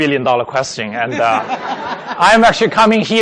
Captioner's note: laughing